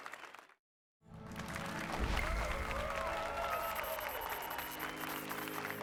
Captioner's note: applause and cheers